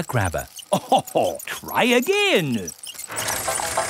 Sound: chuckles

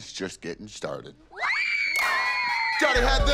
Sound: yelling and screaming

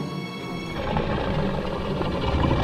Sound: deep growl

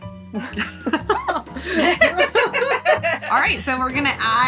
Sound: all laughing

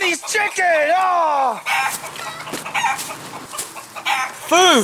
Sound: chicken clucking

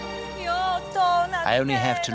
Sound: mourner speaking in foreign language

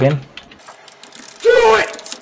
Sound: typing

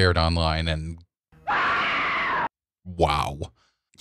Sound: screaming

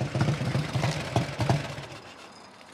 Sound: motor shuts off

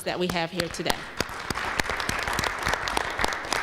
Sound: applause

